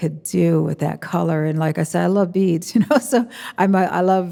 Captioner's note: chuckles